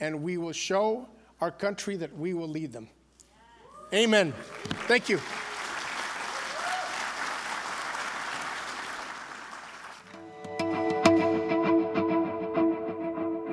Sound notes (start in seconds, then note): 4.2 applause